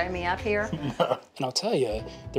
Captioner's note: laughing